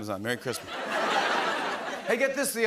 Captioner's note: laughter